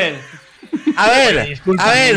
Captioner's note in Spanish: risas